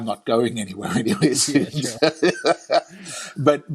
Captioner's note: laughing